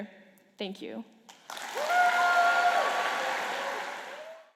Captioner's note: applause and cheering